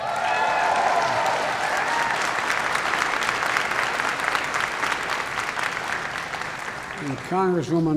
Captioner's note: applause